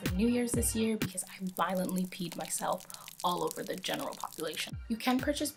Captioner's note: peeing sound